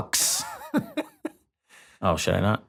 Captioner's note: laughs